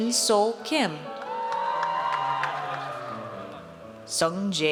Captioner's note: audience cheers